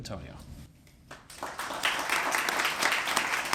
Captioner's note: applause